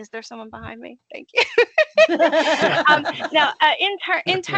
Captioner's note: laughing